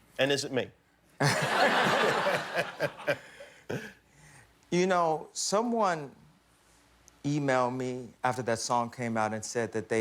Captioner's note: laughter